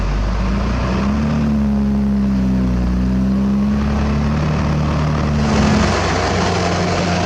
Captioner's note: engine Rev